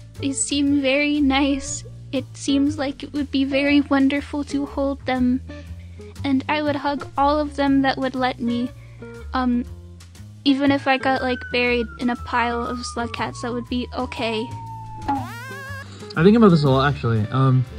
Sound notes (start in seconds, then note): 11.0 slide-whistle slowly getting louder; 15.0 bonk and Wa sound play simultaneously